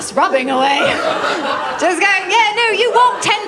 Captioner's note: laughter